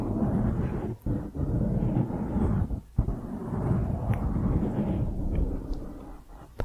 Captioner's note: piecey mic scratching